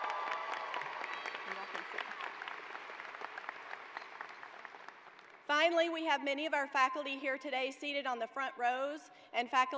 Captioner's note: cheers and applause